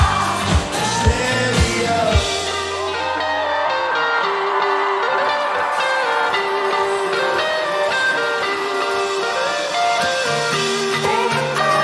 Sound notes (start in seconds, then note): 2.1 cheers and applause